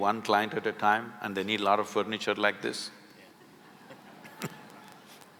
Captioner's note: few laugh